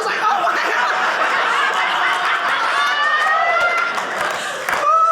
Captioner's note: audience laughing